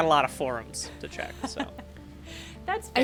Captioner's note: laughs